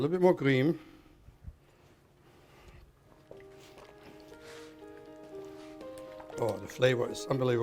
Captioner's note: bubbling